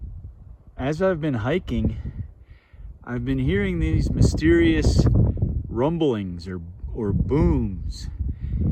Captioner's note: wind blowing